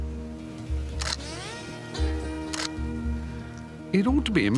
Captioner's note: gentle music; camera snapping